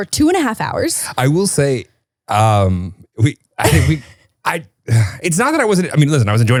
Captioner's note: sighs